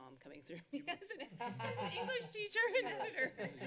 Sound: laughter

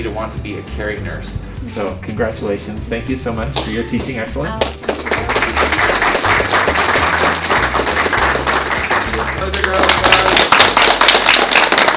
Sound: applause

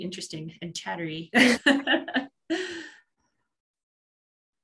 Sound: both laugh

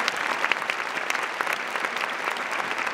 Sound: applause

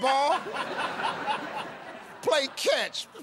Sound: laughing

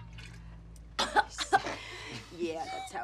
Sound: coughs

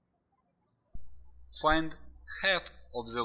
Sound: birds chirping

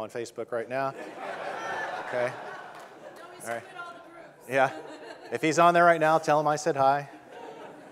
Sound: audience laughing

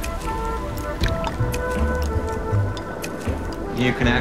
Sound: camera plunks underwater

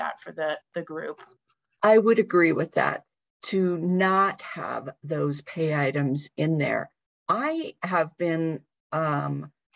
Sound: talking

